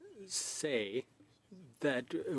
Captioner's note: speaking French